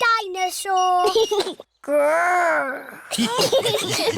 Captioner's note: giggles; laughter